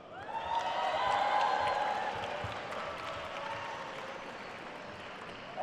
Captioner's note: attendees cheering and applauding